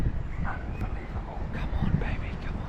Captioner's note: whispers